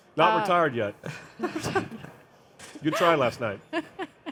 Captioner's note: panelists chuckling